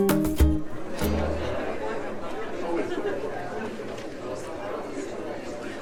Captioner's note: indistinct background chatter